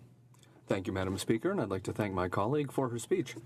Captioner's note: speaking in French